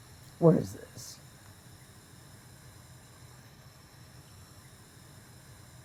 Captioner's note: ventilator hissing